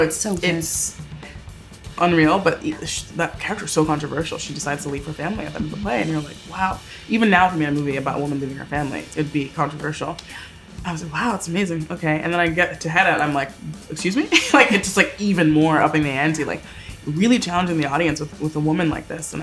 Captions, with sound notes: - It's so good. - It's unreal, but that character's so controversial. She decides to leave her family at the end of the play, and you're like, "Wow." Even now if I made a movie about woman leaving her family, it'd be controversial. - Yeah. - I was like, "Wow, it's amazing." Okay, and then I get to Hedda, and I'm like, "Excuse me?" (chuckles) It's just like even more upping the ante, really challenging the audience with a woman like this,